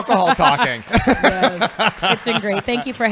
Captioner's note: laughing